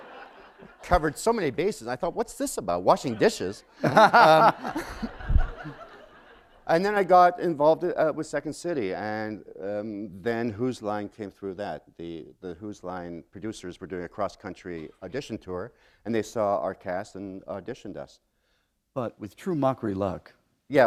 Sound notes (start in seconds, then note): 3.0 laughter